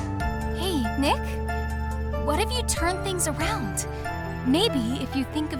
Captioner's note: whispering